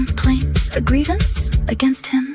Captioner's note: female voice 1